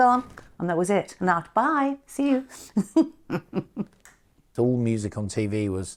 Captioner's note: chuckles